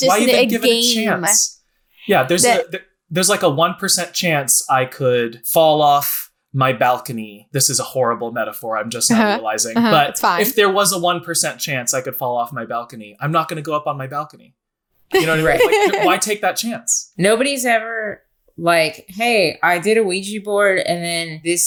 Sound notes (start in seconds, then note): 15.1 laughing